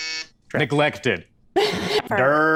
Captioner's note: buzzer; laughs normal & reversed